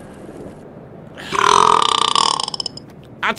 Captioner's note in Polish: beknięcie